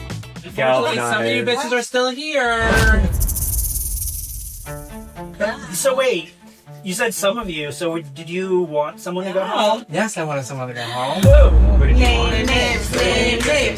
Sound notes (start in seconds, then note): 2.7 snake rattle; 10.7 gasp